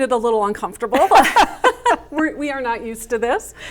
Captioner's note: laughing